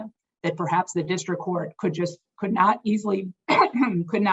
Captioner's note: coughs